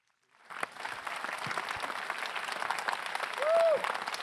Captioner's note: applause